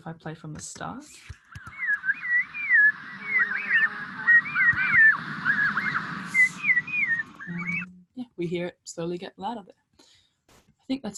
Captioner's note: bird noises fade in